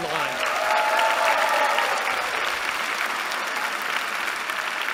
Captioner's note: applause